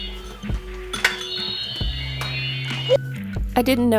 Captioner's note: toy continues to bling